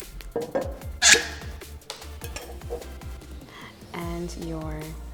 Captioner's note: cork pops